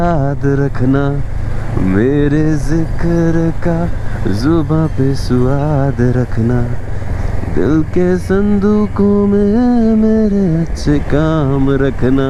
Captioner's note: humming